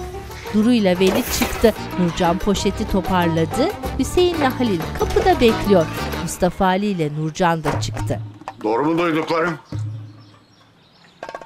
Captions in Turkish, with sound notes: (Kapı açılma sesi) (Kapı gıcırdama sesi) (Kapı gıcırdama sesi) (Kapı kapanma sesi) Doğru mu duyduklarım?